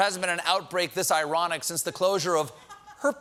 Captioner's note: laughter